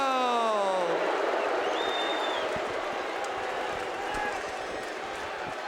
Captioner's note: audience cheering